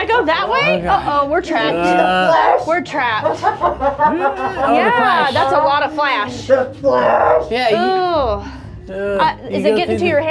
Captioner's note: evil laughter